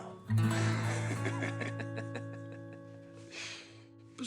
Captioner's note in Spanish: Risas